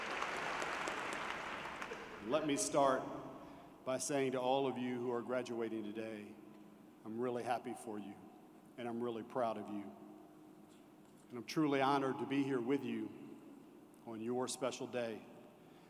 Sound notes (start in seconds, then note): 1.5 applause